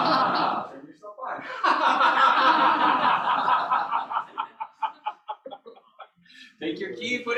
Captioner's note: laughter